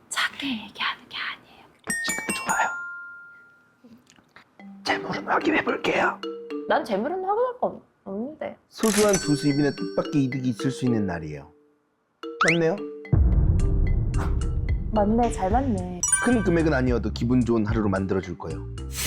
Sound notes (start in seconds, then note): 3.8 sound effect: Blind date turned ASMR; 14.1 thud sound effect